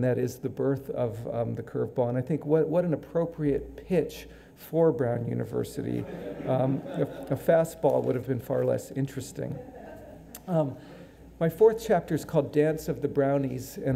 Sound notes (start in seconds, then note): 9.5 audience laughing